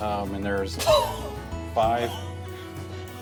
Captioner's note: coughs